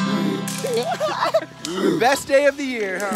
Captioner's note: laughs